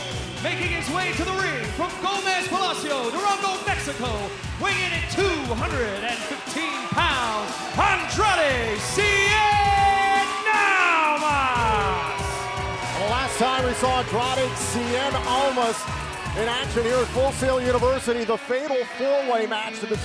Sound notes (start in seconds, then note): 9.9 crowd cheering